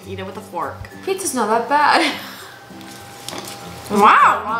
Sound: laughs

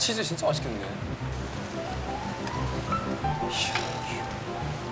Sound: sizzle

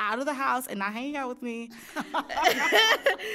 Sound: both laughing

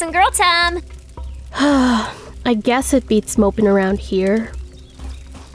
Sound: sigh

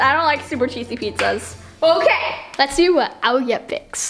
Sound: claps

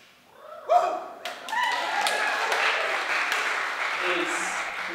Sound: applauding and cheering

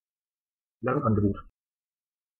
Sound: fast Pronunciation

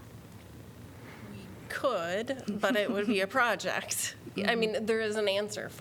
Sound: laughter

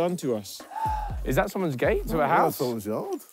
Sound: sighing

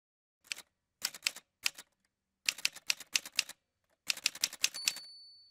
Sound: typewriter sounds

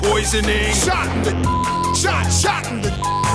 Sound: beep

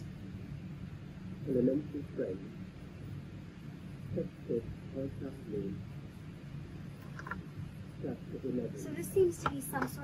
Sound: audio tape plays

